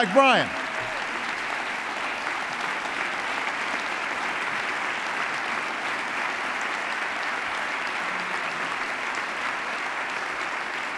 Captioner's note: applause